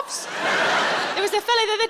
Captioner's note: audience laughing